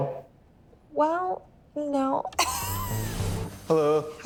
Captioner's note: laughs